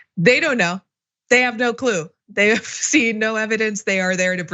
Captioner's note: laugh